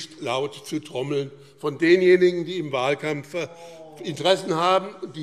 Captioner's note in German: Zurufe SPD: Oh, oh, oh!